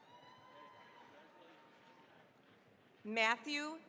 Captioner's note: cheering, applause